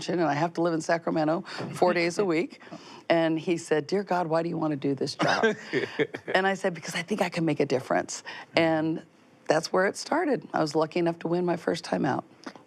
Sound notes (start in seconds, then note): 5.2 laughs